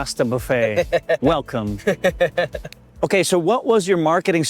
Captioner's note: laughs